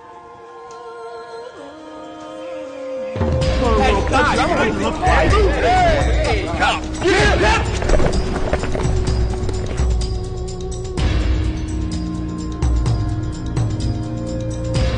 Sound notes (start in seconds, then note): 4.4 yelling